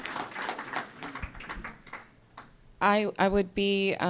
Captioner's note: applause